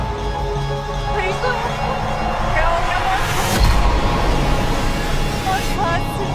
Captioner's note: speaking foreign language